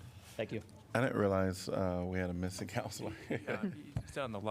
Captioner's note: laughter